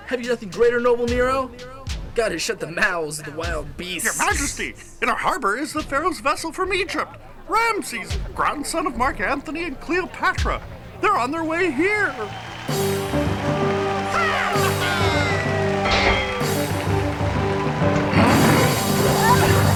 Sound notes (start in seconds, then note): 13.7 la multitud anima; 16.9 música dramática